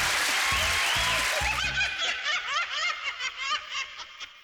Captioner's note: maniacal laughter